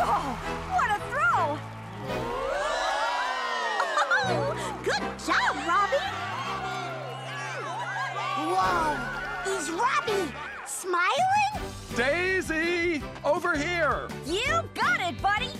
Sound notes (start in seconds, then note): 2.8 cheering